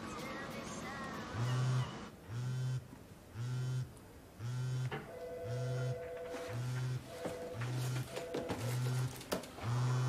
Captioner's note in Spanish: Vibración de móvil